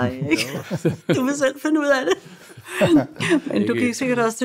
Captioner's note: laughs